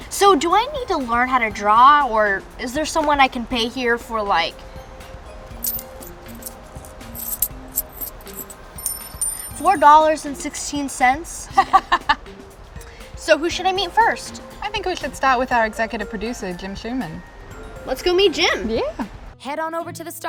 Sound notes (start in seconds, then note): 5.5 coins jingling; 11.5 laughs